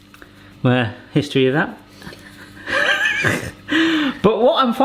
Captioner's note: wheezes